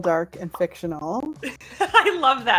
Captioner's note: laughs